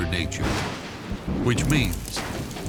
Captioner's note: lightning striking